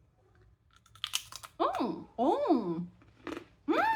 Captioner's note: loud crunch